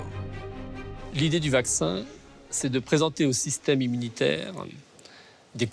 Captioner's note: speaks in foreign language